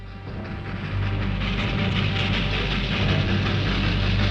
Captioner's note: train rattling; ominous orchestral music